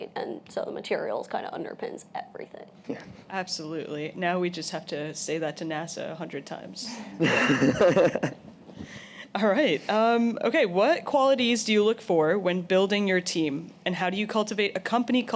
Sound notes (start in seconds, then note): 7.1 laughs